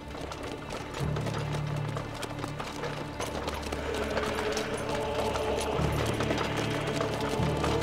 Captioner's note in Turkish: At arabası sesi